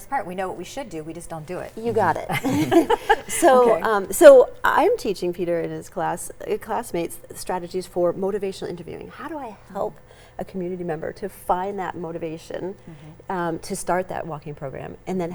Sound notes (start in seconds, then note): 1.9 all laugh